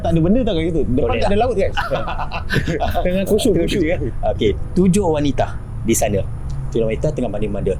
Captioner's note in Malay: ketawa